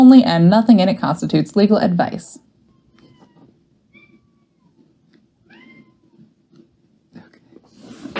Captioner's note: meowing in the background